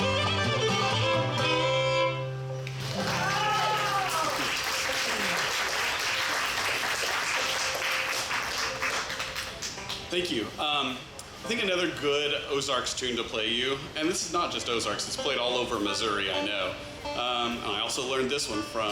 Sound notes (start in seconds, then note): 2.6 audience applauds and cheers